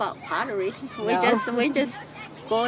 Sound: laughs

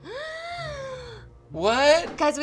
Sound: gasps

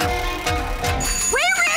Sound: slot machine ringing

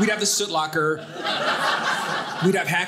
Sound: audience laughing

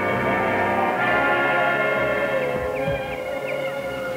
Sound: wind howling

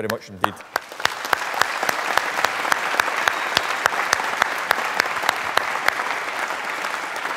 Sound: applause

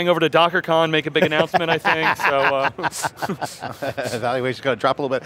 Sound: laughing

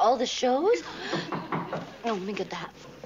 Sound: knock

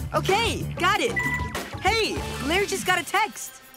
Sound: notification sound

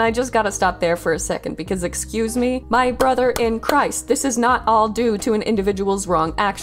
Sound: clap

